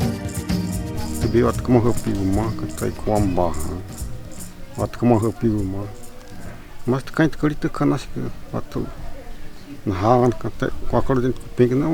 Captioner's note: speaks in xerente language